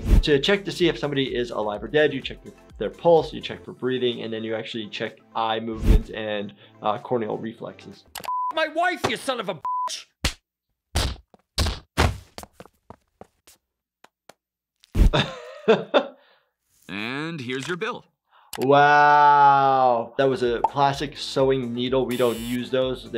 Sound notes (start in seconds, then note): 8.2 beep; 15.0 laughs